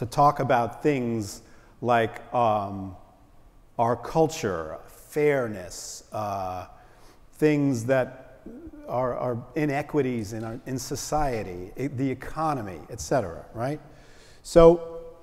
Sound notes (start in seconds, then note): none